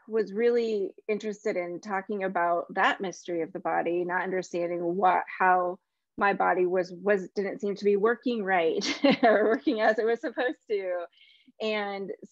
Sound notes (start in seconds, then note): 8.9 chuckles